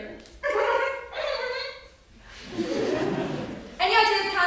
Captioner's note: laughs mockingly; giggles obnoxiously